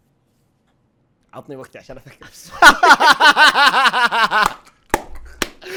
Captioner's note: laughing